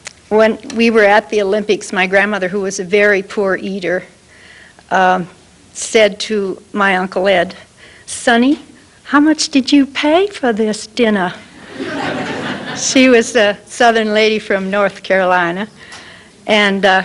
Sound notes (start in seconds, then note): 7.1 southern accent; 11.5 laughter